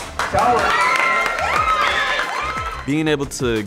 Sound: applause

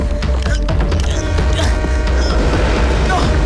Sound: train horn blares

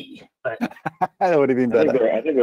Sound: chuckles

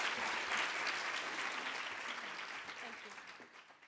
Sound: audience Applauds

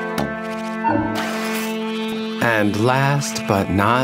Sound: door opening

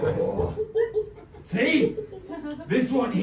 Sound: monkey hoots; chuckles darkly

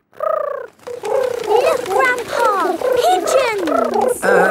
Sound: pigeons cooing

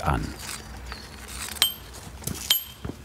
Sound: chiseling

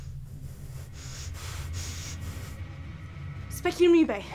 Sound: heavy breathing

